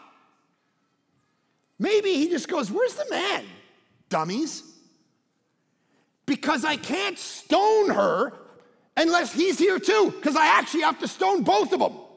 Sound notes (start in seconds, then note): none